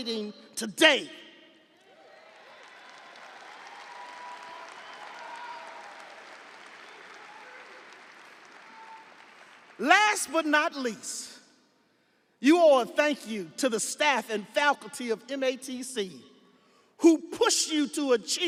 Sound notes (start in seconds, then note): 7.6 audience applauding; 7.6 audience cheering